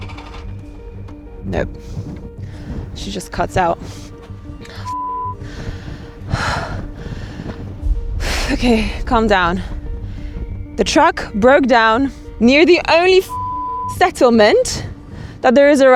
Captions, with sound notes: (vehicle engine whirring) Nope, she just cuts out. (beep) Okay, calm down, the truck broke down near the only (beep) settlement that there is